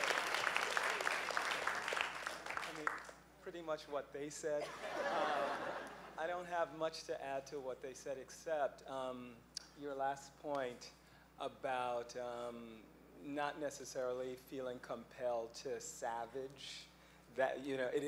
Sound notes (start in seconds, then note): 4.6 laughing